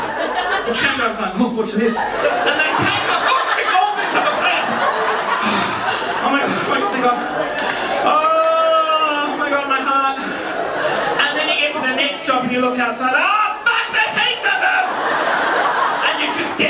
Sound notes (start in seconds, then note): 2.3 audience laughing; 5.1 audience laughing; 10.4 audience laughing; 13.2 yells; 15.4 audience laughing